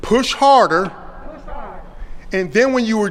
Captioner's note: audience repeats "Push harder"